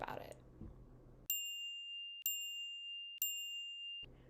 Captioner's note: timer chiming